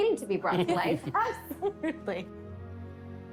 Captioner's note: laughing